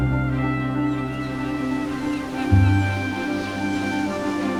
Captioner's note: seagulls squawking